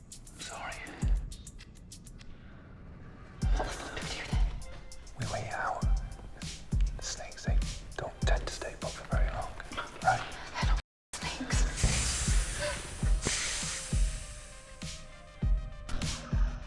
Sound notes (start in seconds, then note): 1.5 dramatic music; 11.2 snake hissing; 13.7 dramatic music